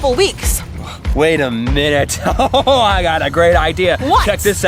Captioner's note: laughing